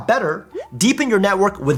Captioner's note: plopping noise